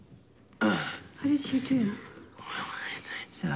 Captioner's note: grunts